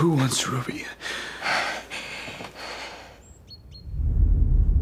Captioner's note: breathing heavily